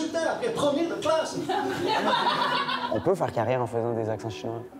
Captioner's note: laughs